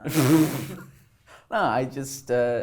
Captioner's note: laughing